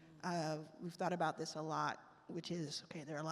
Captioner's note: none